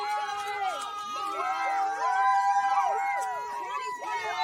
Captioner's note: people cheering